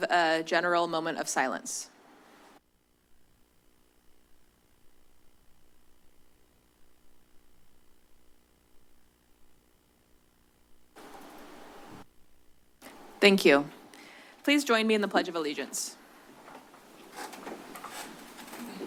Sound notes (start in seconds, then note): 4.3 silence; 9.8 silence; 17.8 rustles